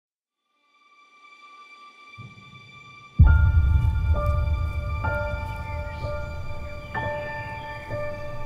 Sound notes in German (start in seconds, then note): 5.2 Vögel singen